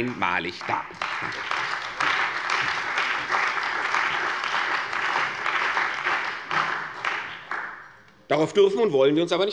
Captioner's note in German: Beifall bei der CDU und dem BÜNDNIS 90/DIE GRÜNEN